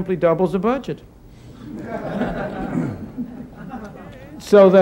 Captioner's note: laughter